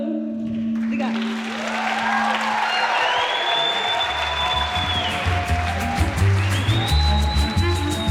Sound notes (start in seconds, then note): 0.7 applause